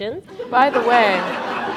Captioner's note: laughter